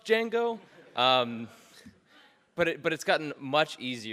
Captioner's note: audience laughs